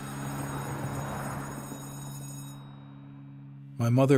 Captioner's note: school bell ringing